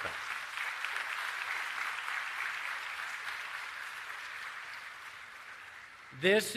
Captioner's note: applause